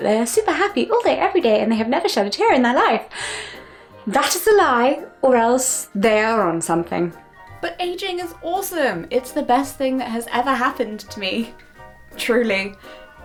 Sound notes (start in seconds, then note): 0.3 falsely happy voice; 3.9 normal voice